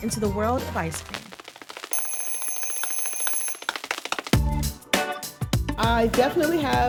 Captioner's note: record crackling; bell ringing